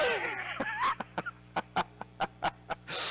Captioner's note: laughing